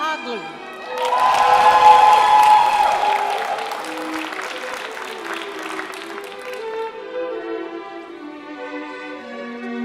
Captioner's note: applause